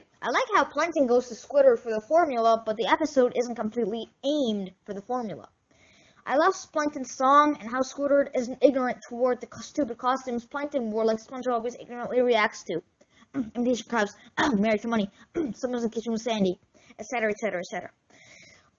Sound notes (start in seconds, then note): 15.3 cough